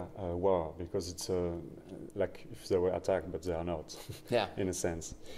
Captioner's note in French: rires